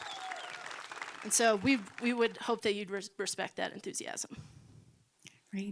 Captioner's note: cheering and applause